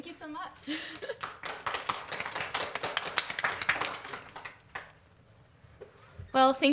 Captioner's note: applause